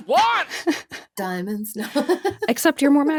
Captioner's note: chuckles